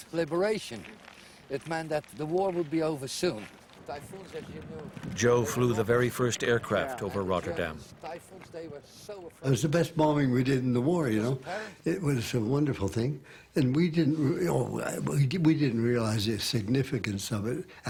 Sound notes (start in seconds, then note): 3.8 voiceover